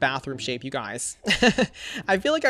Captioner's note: laughs